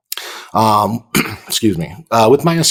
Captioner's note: clears throat